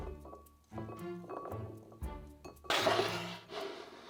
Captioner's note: beans dropping